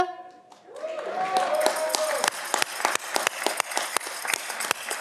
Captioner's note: audience cheering